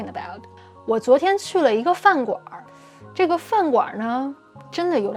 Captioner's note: speaking in Mandarin